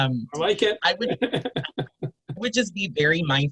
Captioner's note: both chuckling